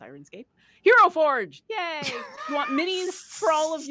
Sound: laughs

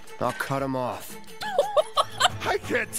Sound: laughter

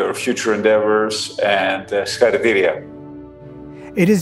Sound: speaking in foreign language

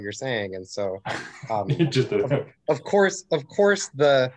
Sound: laughs

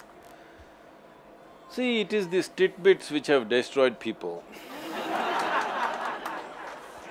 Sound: laughter

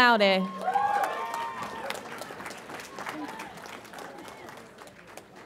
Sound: audience applauds and cheers

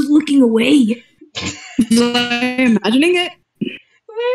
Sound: glitching

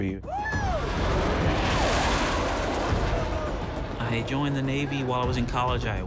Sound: jet engine roaring

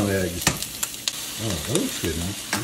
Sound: egg cracks

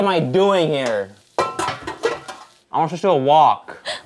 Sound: pan banging

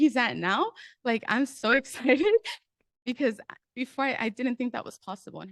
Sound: nervous giggle

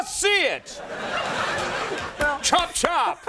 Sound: audience laughter

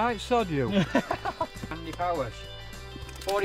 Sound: laughing

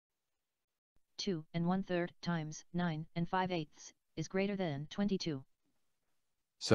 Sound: synthesized speech

